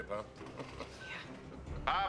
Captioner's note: chuckles